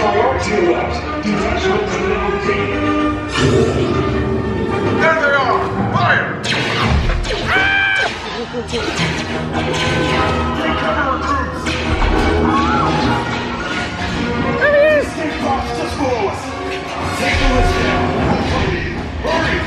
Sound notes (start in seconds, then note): 0.4 intense music; 6.4 laser shots; 7.4 screams; 9.1 laser shots; 10.6 people talking; 11.2 intense music